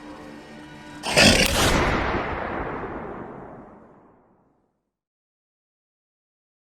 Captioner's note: werewolf roars; gun firing